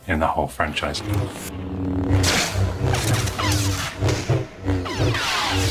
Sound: light sabres buzzing

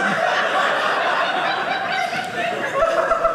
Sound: audience laughing

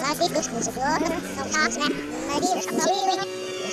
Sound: laughing

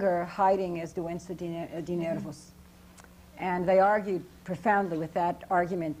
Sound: non-english

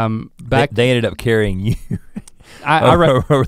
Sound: chuckles

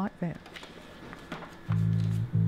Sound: printer Whirring

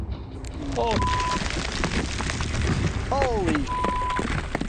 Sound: earth falling

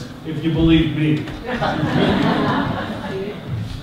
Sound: audience laughter

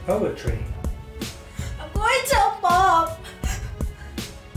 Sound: crying

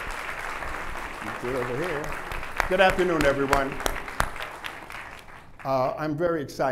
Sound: applause

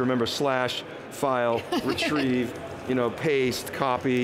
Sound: laughing

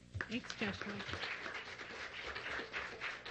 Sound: applause

